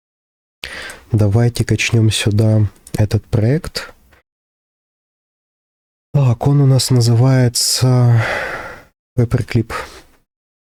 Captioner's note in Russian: вздыхает